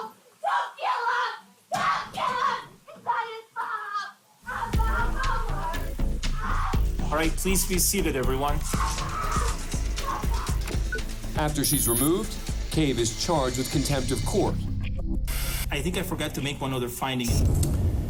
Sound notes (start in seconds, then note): 4.6 indistinct shouting